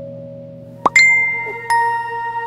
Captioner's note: Notification tone